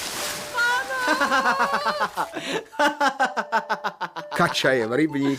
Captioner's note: laughs